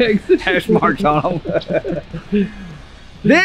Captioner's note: laughs